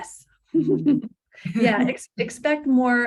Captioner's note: laugh